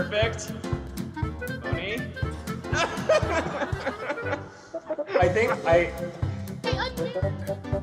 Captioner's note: หัวเราะคิกคัก